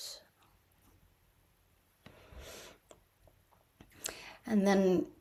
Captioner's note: pause